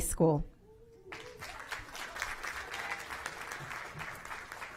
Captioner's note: applause